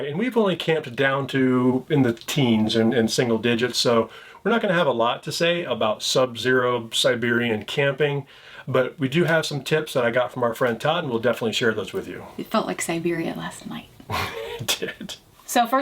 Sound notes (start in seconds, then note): 14.0 chuckles